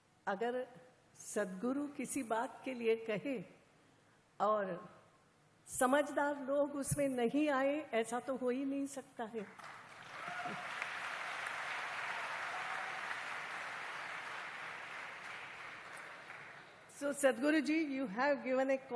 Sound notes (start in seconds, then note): 12.3 applause